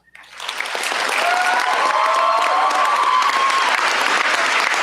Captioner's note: cheers, applause